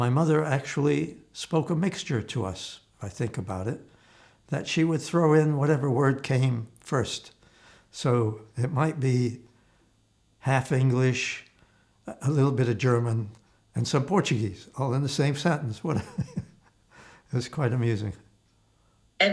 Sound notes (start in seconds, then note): 15.9 laughing